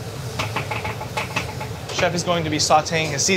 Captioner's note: wok clattering